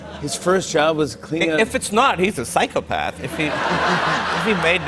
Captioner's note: laughter